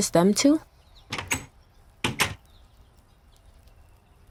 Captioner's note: door opens / closes